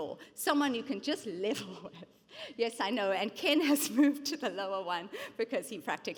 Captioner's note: chuckles